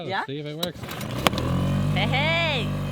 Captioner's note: engine roaring